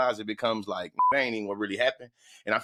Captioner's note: beep